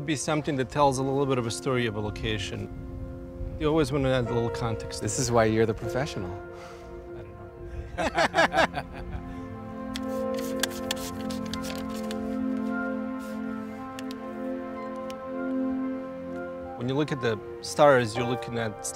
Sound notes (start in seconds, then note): 7.7 laughing; 10.6 tranquil music